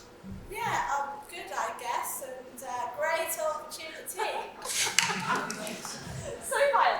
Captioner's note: audience laugh